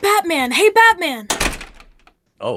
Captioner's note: door closes